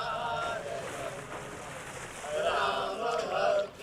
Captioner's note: splashing